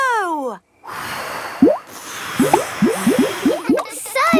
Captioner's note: all blowing